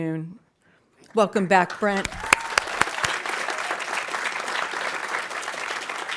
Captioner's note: audience applauding